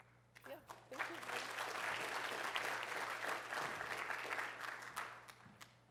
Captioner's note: applause